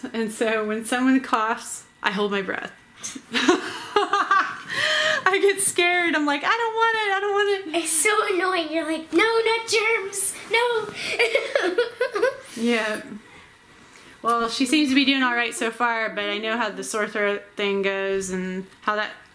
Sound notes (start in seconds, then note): 3.3 laughing; 10.9 laughing